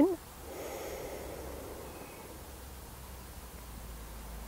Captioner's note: inhaling